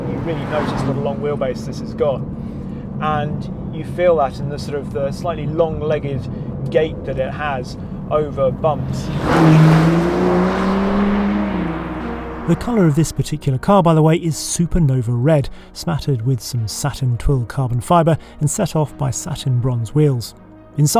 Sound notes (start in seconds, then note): 9.3 car zooming